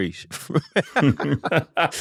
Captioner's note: laughter